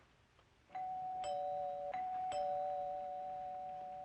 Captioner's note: doorbell Rings